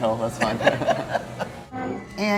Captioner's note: laughing